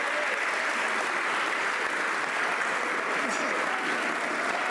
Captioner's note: some laughter and applause